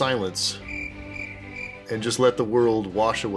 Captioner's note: crickets